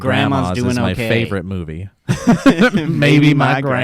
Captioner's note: laughs